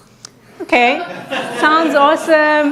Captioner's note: audience laughing